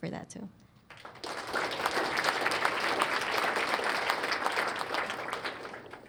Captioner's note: applause